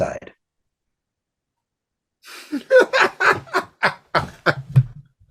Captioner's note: laughing